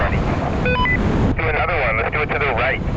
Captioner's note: radio beeps